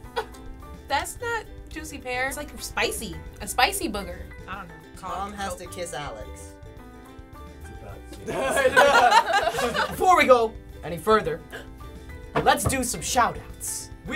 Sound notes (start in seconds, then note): 8.3 laughter